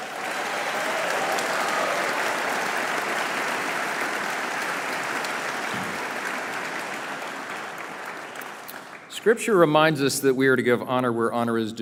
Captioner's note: applause